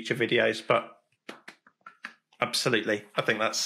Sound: claps

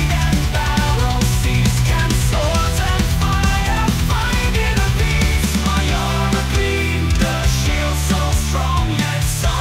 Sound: gruffly

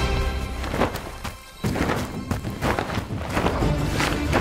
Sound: wings flapping

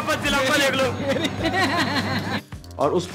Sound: laughing

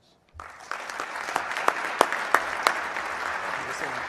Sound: applause

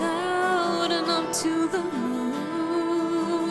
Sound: none

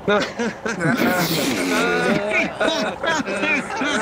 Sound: laughing

